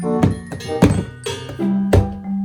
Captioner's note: metal Pipe SFX